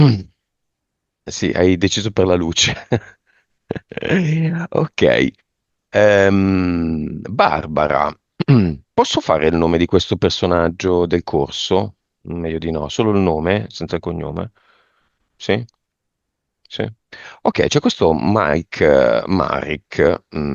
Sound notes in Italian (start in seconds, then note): 2.6 risate